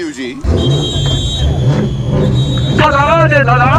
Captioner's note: opening whistle for readying !